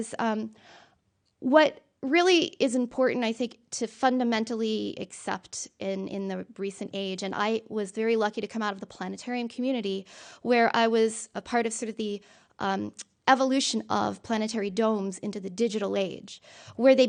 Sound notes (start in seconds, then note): none